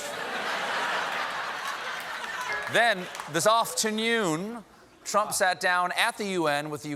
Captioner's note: laughter